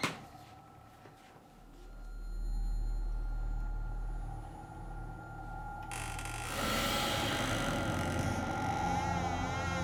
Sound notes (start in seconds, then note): 5.9 rocking chair creaking